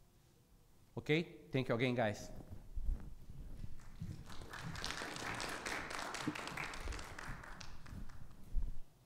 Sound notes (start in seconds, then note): 3.7 audience clapping